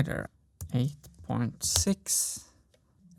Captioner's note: keystroke